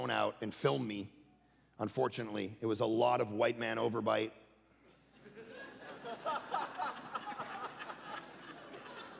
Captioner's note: congregation laughing